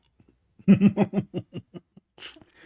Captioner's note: Ketawa